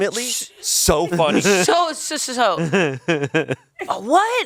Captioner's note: laughs